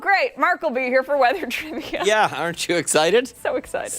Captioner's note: laughter